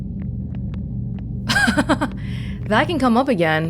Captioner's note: laughs